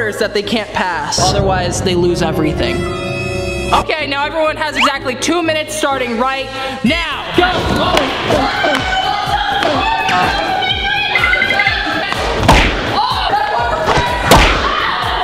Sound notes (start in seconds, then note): 7.2 contestants chattering